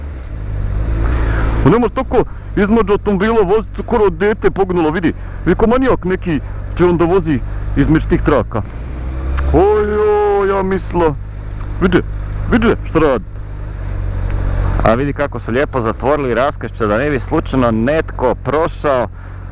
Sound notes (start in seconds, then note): 1.6 thick accent; 14.7 normal accent